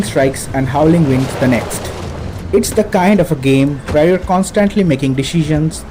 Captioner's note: audio cue: thunder crack